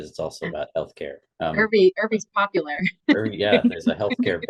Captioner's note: laughs